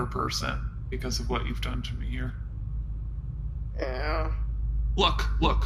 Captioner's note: makes a disappointed sound